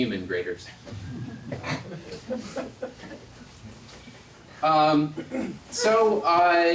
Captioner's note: laugh